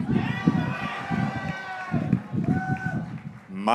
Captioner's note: graduates cheering